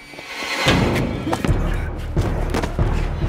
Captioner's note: both grunting; Von Richter grunts; suspenseful music